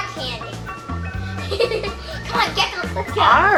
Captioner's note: laughs